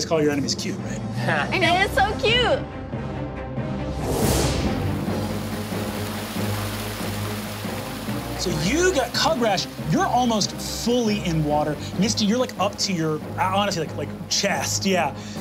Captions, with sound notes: call your enemies cute, right? - They're so cute. (suspenseful music) (water rushing) - Kugrash, you're almost fully in water. Misty, you're like up to your, I wanna say like, chest, yeah.